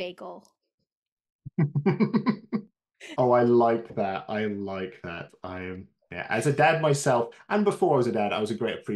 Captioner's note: chuckles